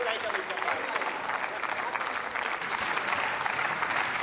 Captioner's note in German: Beifall